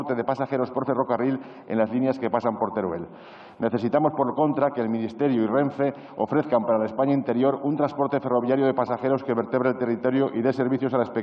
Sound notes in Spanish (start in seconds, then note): none